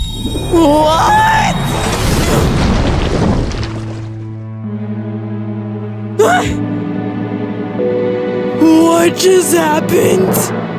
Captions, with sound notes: What?! (wood crash, grunts) (Bailey yelps) Wh-what just happened?!